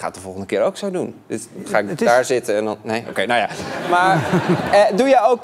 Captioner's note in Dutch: gelach